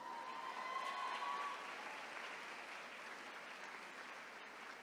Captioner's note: attendees cheering